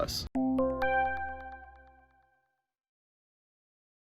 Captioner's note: electronic dings